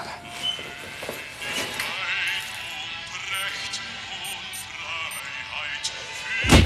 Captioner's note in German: Uhr spielt Hymne